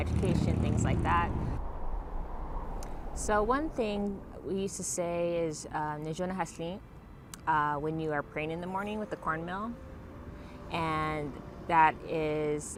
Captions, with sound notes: know, education, things like that. So, one thing we used to say is [Foreign language] When you are praying in the morning with the cornmeal, and that is essentially saying